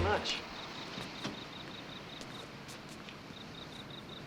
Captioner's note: crickets chirping